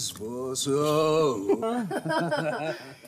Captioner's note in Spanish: Risas